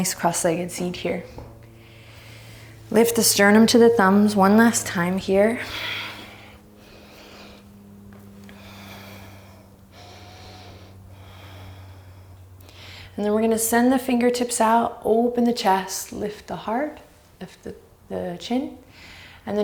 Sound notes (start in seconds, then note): 5.8 deep breaths